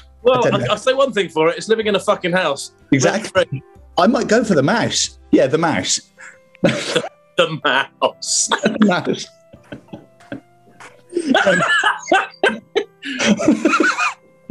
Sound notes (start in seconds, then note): 8.4 laughing; 11.1 laughter